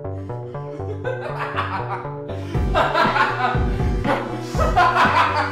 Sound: Slick laughing hysterically

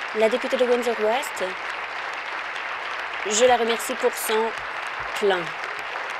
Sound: applause; continued applause

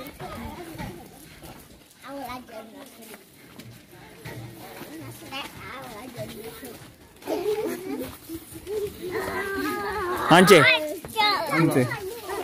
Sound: speaking in Foreign language

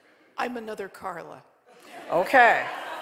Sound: audience laughing

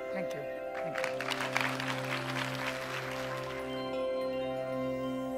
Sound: applause

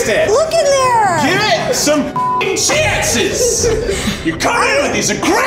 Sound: beep

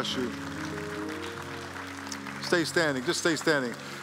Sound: applause

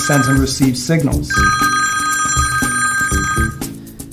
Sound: phone ringing

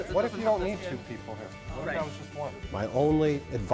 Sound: group Talking

